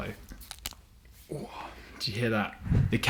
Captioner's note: cracking